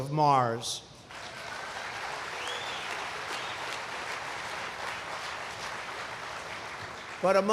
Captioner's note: applause